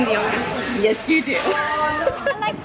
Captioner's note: laughing